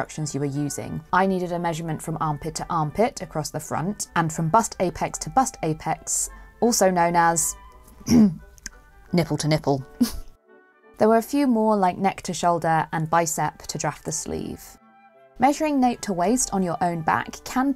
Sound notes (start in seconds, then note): 10.0 snicker